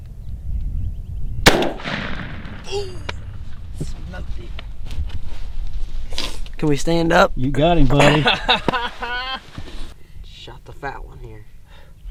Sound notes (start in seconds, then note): 1.4 gunshot fires; 8.0 laughter